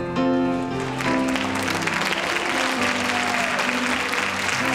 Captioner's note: cheering